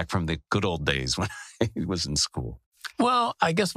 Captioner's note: laugh